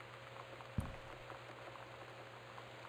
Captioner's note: soft Thump